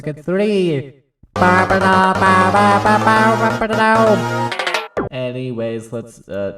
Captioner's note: SNES Mario Circuit 3 noises